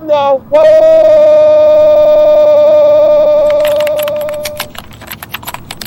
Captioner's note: crying